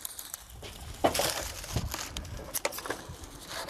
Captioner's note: quiet craft noises